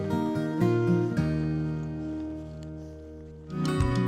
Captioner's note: footsteps